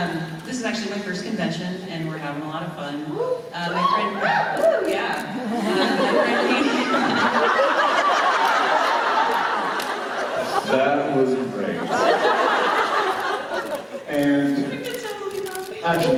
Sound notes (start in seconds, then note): 3.7 whoops and cheers; 5.3 laughing; 7.5 audience laughter; 11.7 laughter